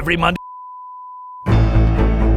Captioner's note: graphic beeping; dramatic music